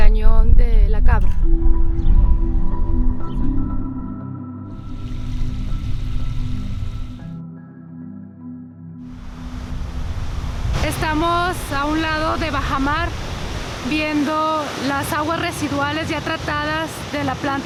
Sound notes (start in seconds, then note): 4.7 slow tempo music; 4.7 sound of flowing water; 10.8 speaking in foreign language